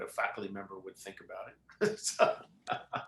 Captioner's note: laughs